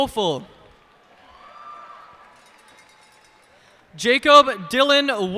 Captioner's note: cheers and applause